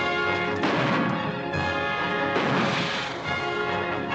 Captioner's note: gunshots